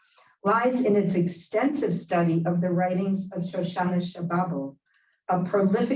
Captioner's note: Hebrew